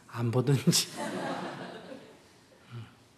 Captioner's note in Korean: 청중 웃음